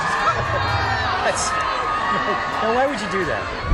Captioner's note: crowd cheers